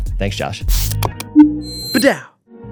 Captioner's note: mouse clicking; logo chiming